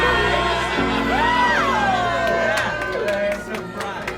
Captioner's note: cheering